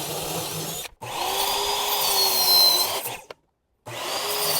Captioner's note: drill whirs; saw whirs